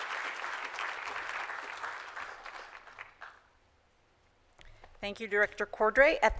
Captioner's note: applause